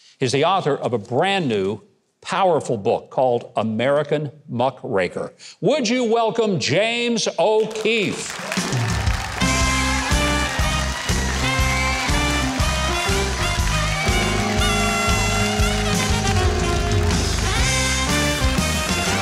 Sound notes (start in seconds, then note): 8.7 adventurous music; 8.9 audience applauding